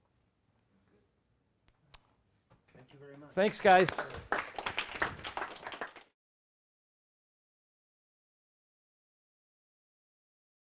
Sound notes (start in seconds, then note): 6.5 audience applauds